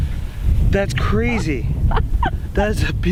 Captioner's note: laughing with glee